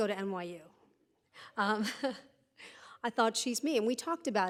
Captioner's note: laughs